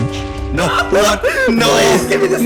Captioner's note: laughs